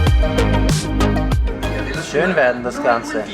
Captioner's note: mexican radio in the background